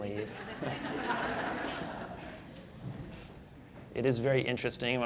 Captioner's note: audience laughing